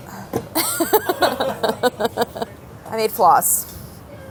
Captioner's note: laughing